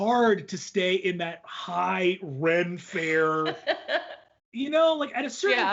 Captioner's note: laughs